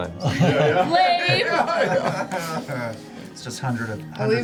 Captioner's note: sarcastically; all laugh